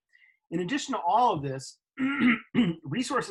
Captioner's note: clears throat